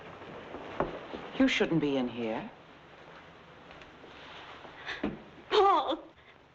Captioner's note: gasps